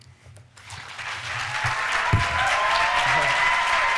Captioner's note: applause